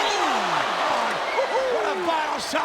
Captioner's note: crowd cheering